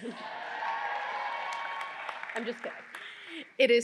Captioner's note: audience cheering